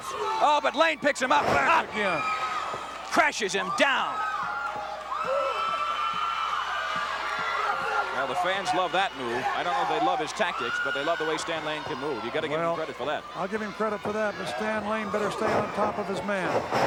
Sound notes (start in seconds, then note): 4.8 audience cheering